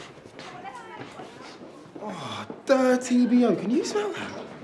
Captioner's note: sniffs